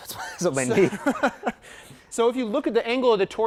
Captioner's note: laughing